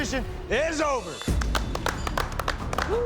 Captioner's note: applause